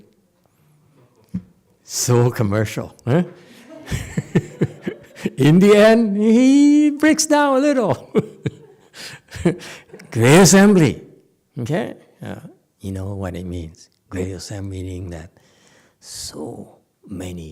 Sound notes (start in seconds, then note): 3.6 laughs